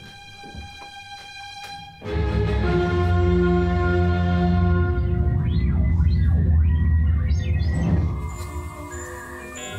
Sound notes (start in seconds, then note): 4.5 digital bleeping